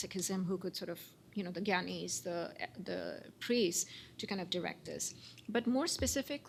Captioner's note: non-english